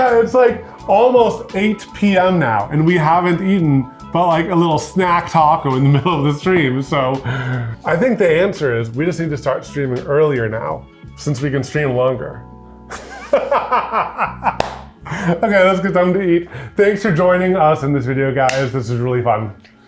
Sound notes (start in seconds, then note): 12.9 laughs